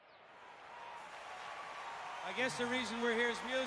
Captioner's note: crowd cheering